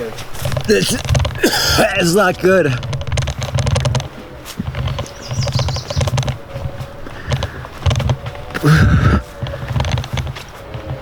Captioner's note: heaving